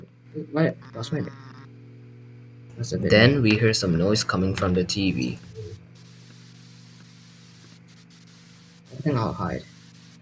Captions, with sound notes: Then we hear some noise coming from the TV. [Television static]